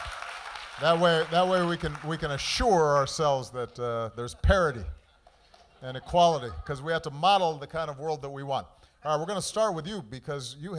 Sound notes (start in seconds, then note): 2.7 cheers and applause